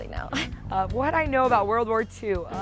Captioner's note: laughs